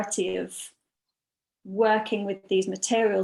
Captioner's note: none